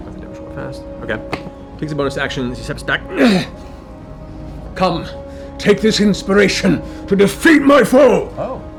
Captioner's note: grunts